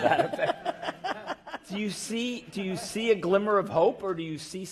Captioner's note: laugh